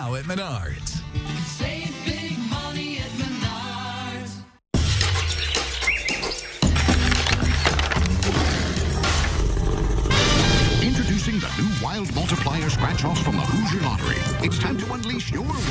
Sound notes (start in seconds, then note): 4.7 upbeat music; 6.5 birds chirping; 8.1 upbeat music; 10.0 Paper Tiger growling